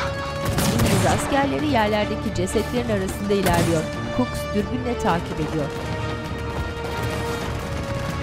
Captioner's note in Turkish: Müzik - Gerilim; Silah sesleri